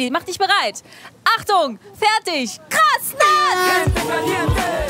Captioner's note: Startsignal